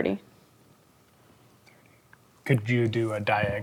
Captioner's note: quietly